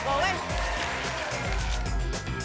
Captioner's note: tickets shuffling